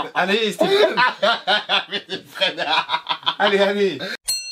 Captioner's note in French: fou rire